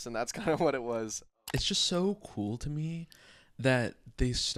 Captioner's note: computer mouse clicking